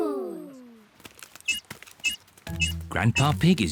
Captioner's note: beeps slowly